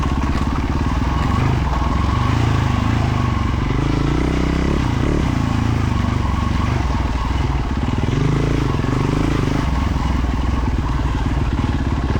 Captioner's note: engine revving